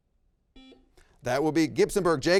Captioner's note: buzzer rings